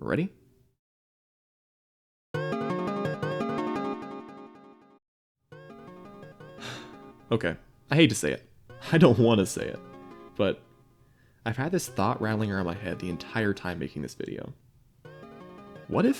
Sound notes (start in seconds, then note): 7.1 hah